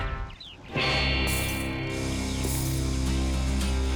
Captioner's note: spurs jangling